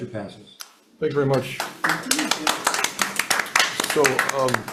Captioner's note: hands clapping